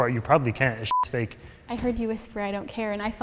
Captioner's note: beep